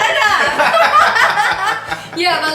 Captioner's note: laughs loudly